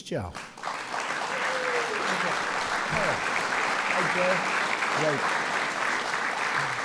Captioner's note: applause